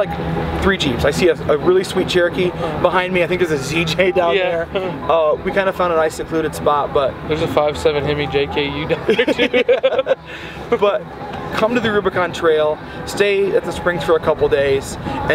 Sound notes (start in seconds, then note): 4.3 chuckles; 8.9 both laughing